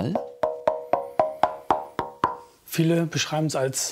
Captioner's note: dull sounds